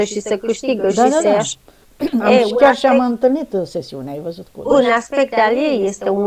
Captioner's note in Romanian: voce dreasă